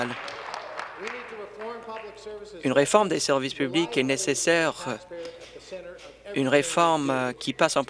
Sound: applause

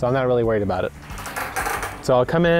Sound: gate creaking

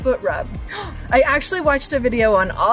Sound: gasps

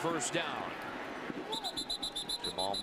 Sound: whistle

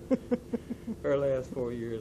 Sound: laughter

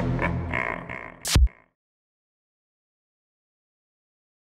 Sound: sinister laugh; horns blare; electrical zap

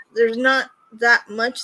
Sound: none

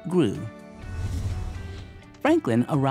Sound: frame whooshes

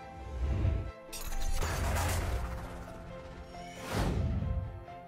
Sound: bright instrumental music; metal clanking; air whooshes

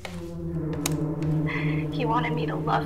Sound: cassette player turns on

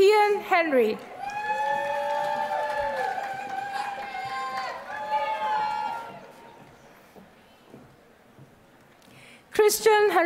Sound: applause

